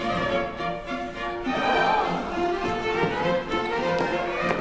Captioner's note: Contadine groan